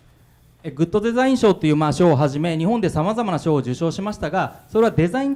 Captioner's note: speaking foreign language